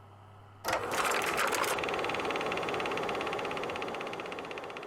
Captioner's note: film reel rolls